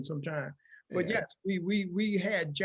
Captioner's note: laughing